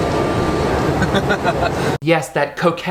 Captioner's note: Jeffree giggles